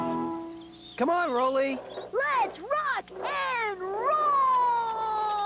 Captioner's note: machines exclaiming excitedly